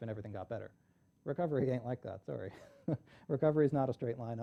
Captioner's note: chuckles